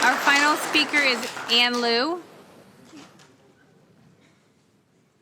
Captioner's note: applause